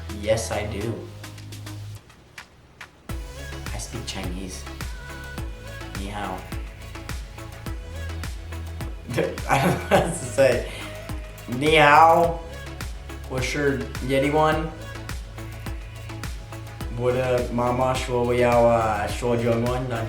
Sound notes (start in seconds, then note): 9.1 laughs; 13.4 speak foreign language